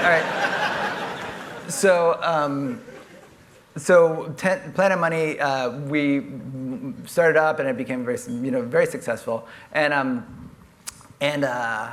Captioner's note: laughter